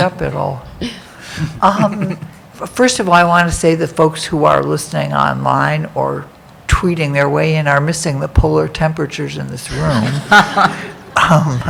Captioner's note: laughter